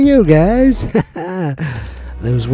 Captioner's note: chuckles